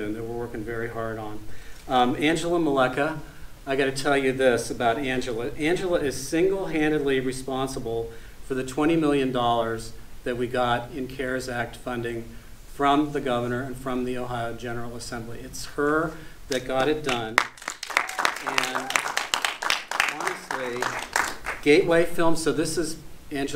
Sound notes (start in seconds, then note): 17.0 audience applauding